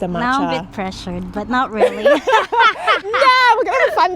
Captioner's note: laughs